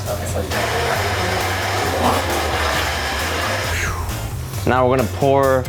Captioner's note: loud grinding sound